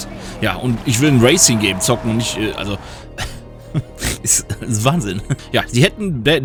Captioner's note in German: gelächter